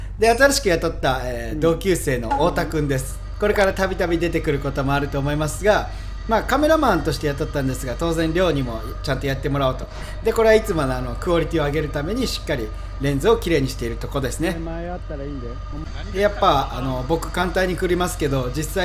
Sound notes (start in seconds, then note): 15.2 haha